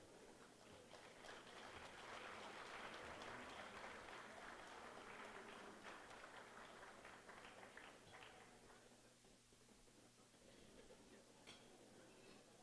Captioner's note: applause